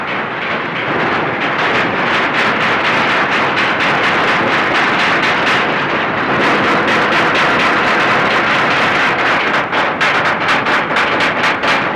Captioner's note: hammering